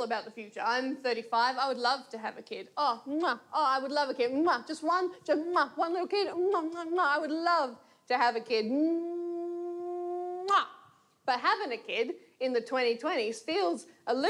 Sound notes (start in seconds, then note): none